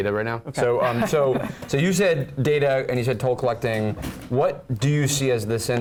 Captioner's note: laugh